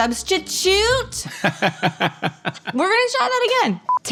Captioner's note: both laugh